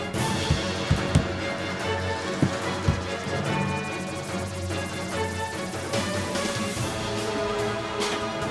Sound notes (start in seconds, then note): 2.2 banging; 5.6 dramatic music